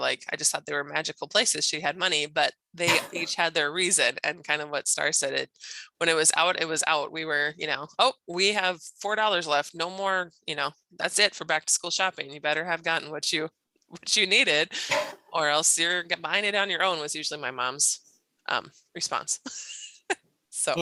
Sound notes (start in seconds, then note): 2.9 chuckles; 19.6 laughing